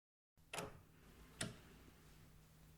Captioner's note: A door opens